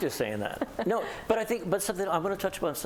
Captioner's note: laughter